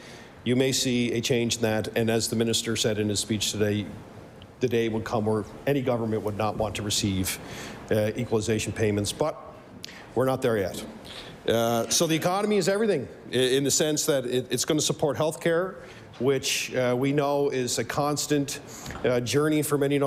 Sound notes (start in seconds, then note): none